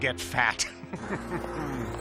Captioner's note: laughter